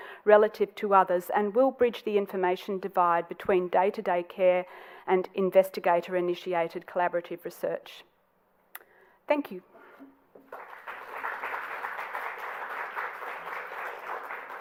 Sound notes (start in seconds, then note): 10.4 applause